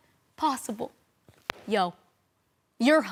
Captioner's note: book slapping closed